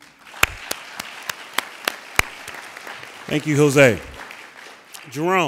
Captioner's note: applauding